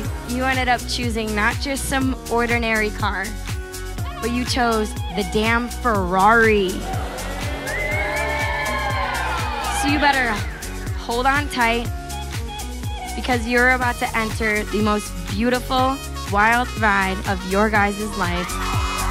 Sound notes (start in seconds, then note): 6.8 crowd cheering and whistling